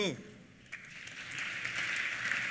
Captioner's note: applause